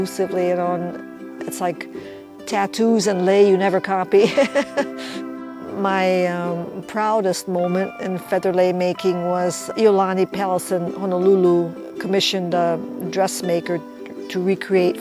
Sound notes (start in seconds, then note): 4.3 laughs